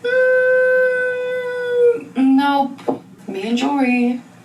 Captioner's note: woman wincing